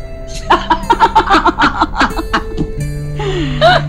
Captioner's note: Poonam and Sheena laughing